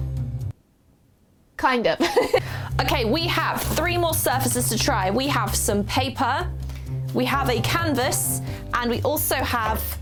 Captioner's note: laughs